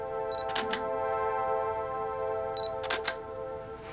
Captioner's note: camera shutter clicks